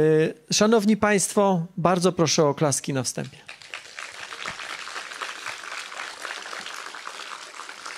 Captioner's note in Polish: oklaski